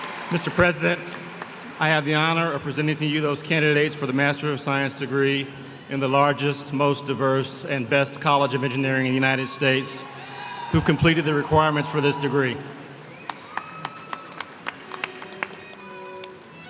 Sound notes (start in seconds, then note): 0.0 applause; 13.1 applause